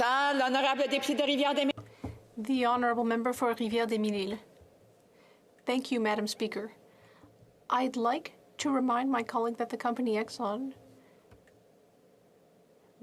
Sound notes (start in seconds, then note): 4.5 speaking French